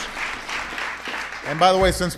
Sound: applause

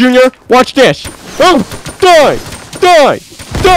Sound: rapid gunfire; bombs exploding

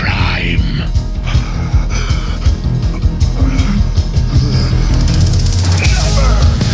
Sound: labored breathing

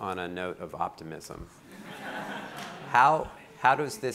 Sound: audience laughing

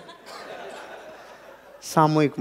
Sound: laughing

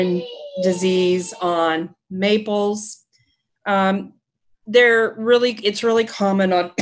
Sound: coughs

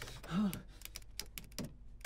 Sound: clicking elevator buttons

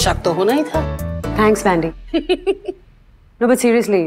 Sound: Vandy giggling

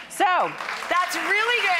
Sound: audience claps

